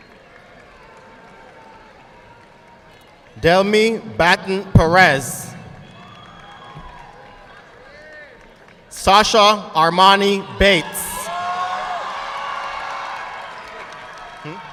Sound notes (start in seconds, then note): 0.0 audience clapping; 10.9 audience applauding